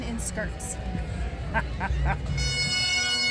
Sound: laughs; bagpipe band playing

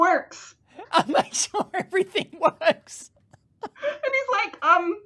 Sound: laughter

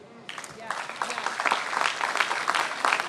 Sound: applause

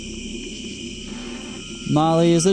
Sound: static

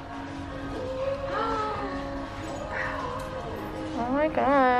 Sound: gasps

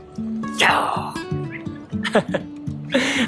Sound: lion roar in Japanese

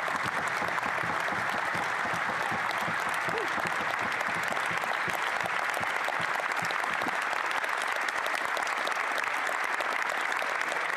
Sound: applause

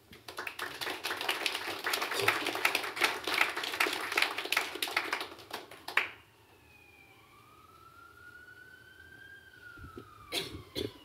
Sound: applause

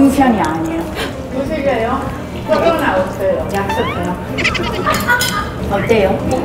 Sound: laughs

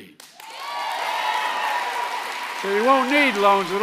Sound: applause

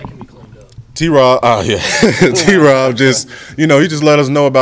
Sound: laughs

